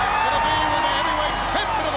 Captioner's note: crowd cheering